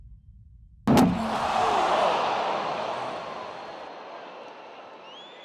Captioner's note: thud; crowd shouting; whistling